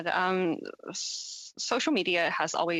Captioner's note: speaking French